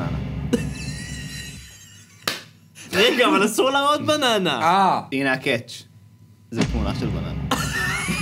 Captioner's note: snickers; clap; laughs